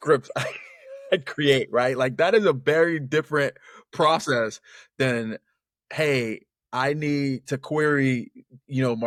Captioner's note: laughs